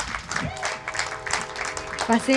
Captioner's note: distant train horn honks; speaking Spanish